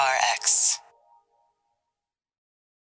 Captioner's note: electronic Voice